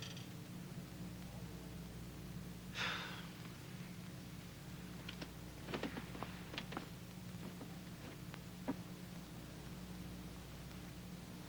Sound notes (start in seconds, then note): 2.7 Casey sighs